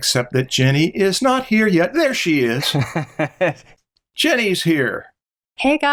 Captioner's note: laughter